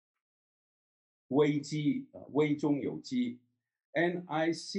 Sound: foreign language

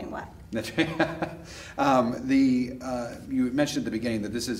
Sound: chuckles

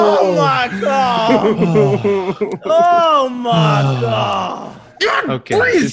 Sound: laugh

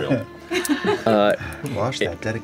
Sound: laughter

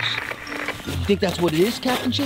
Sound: static crackles

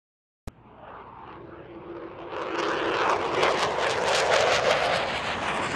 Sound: airplane flying overhead

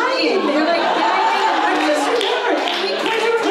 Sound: audience laughs

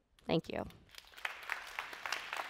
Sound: applause

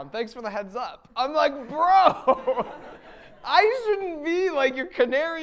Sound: laughing

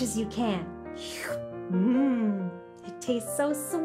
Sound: slurps

